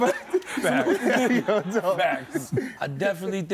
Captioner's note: laughing